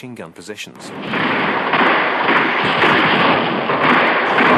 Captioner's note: guns firing; bombs exploding